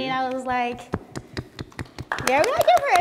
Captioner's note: applause